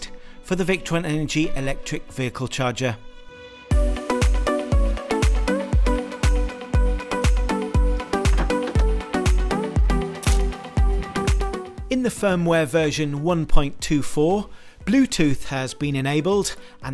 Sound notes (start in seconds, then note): 4.3 upbeat music; 8.0 door clicking